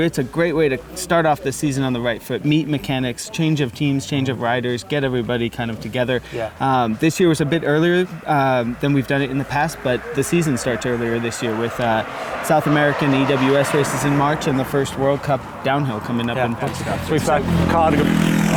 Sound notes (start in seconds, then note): 16.6 traffic noise